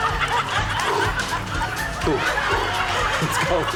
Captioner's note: exhales